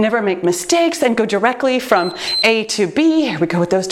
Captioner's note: timer beeps